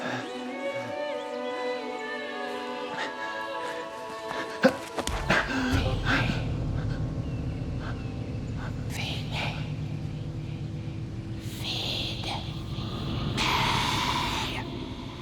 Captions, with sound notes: [a capella choral music] [grunting] -Feed me. -Feed me. Feed me. Feed. Me.